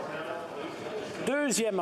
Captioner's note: speaking French